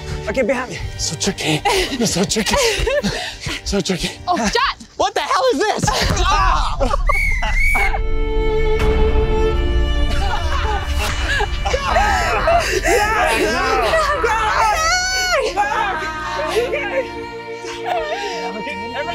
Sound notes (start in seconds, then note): 5.9 cries in pain; 7.0 whistle blows; 8.2 dramatic instrumentals; 10.1 laughter; 11.6 cries of pain; 15.3 dramatic instrumentals